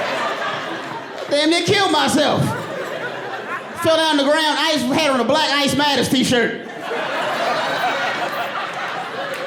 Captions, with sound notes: Damn near killed myself. Fell down on the ground, ice had on a "Black Ice Matters" T-shirt. [AUDIENCE LAUGHING]